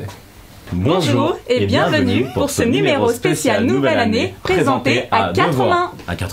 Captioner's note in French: en choeur